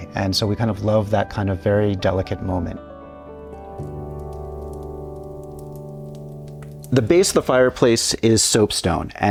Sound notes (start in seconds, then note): 3.7 fire crackling